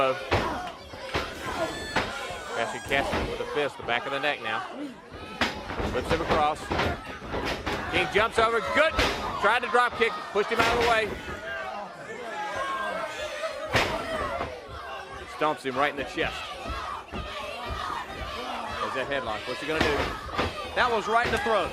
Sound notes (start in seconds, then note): 11.9 crowd chatter; 17.9 crowd cheering